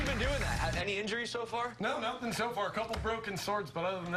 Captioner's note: cheers and applause